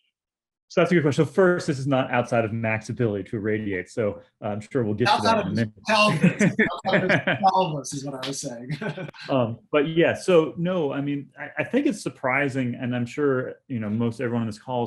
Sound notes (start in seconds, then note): 6.0 laughter; 8.6 laughter